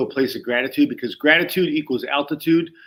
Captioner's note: none